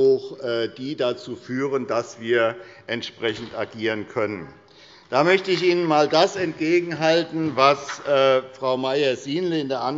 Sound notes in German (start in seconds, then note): 4.5 Beifall des Abg